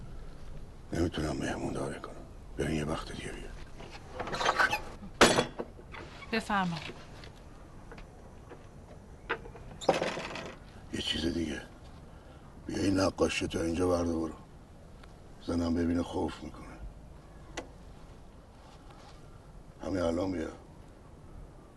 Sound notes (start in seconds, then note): 4.2 door screeching; 9.8 door screeching